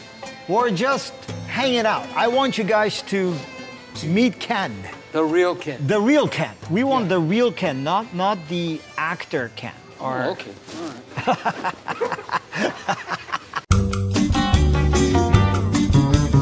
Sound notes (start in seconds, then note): 11.1 laughing; 13.4 upbeat music